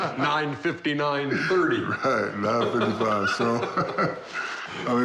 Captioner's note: laughter